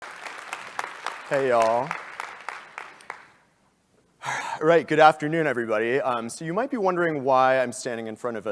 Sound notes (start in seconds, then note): 0.0 applause